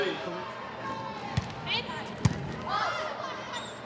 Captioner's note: ball thumping; players shouting indistinctly